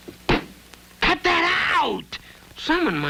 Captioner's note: lips kiss